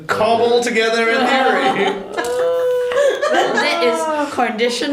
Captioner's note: more laughter